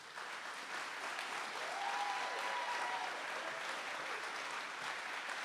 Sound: audience applauds and cheers

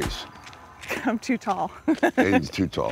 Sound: laughing

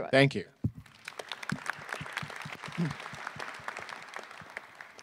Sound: attendees clapping

